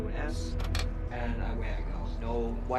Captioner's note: voice distorting